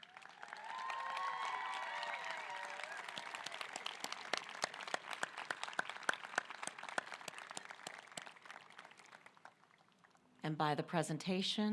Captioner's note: applause